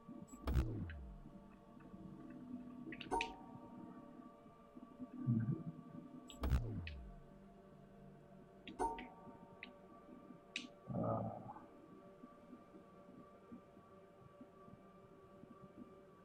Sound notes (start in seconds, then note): 5.2 hums